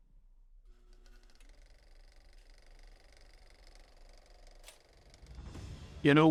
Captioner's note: film projector clicking